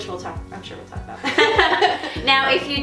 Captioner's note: laughing